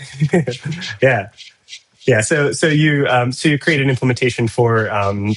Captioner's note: laughs